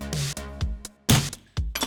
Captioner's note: bang!